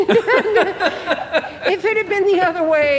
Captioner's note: laughing